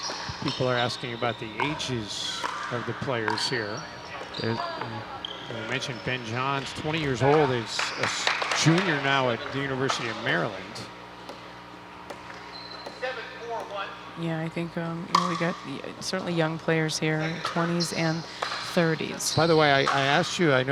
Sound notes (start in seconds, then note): 12.0 ball bouncing